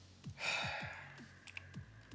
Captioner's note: scoffs